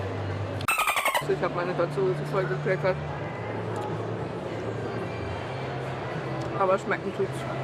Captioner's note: dolphin noises